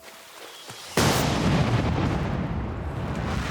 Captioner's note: explosion